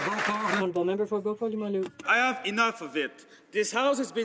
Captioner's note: some Applause